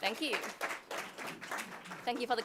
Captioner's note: audience applauding